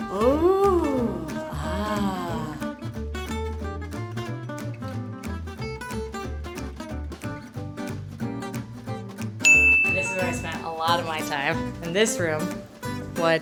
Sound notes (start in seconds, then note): 1.8 whimsical music; 9.4 ding